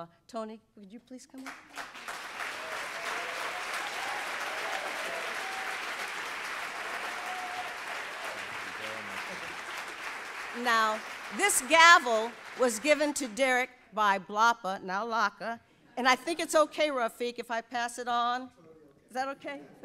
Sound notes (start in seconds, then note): 1.7 audience applauds; 8.4 speaking faintly